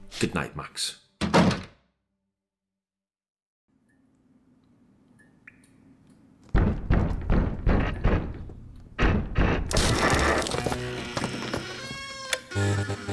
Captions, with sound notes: Good night, Max. [repeated banging] [creaky door opens]